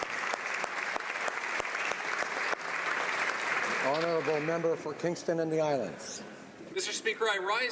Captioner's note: applause